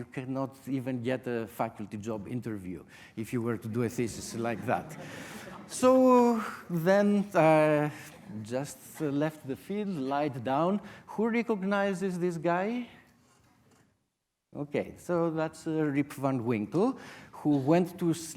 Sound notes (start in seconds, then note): 4.1 audience laughter